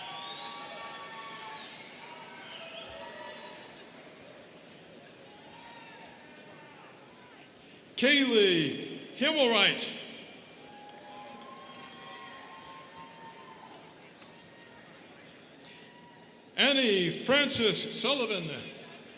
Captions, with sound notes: (students cheering) Kailee Himelright. (students cheering) Annie Francis Sullivan.